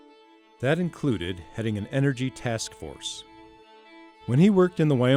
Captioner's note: voiceover